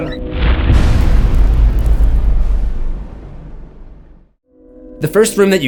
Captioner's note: impact